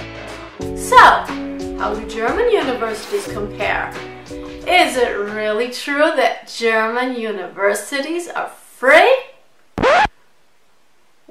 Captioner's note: scratch sound